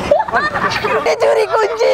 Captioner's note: laughing